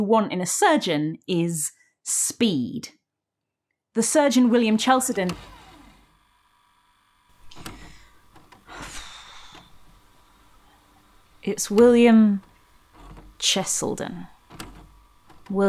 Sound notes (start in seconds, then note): 7.3 VHS clunking sound